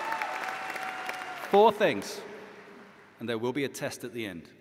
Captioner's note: cheers and applause